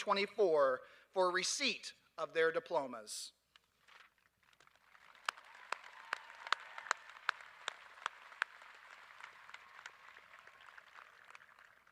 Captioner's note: applause